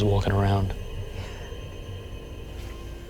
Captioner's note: whispering; ominous music